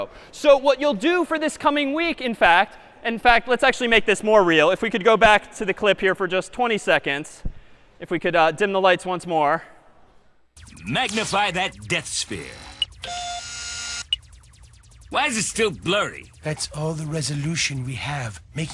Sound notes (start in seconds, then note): 12.8 beeps